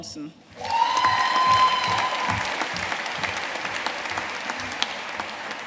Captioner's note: audience cheering and applauding